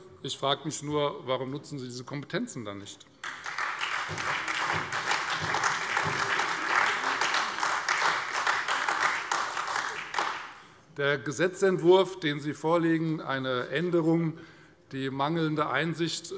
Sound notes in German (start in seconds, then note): 3.2 Beifall Freie Demokraten, SPD und AfD